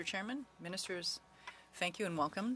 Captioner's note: speaking French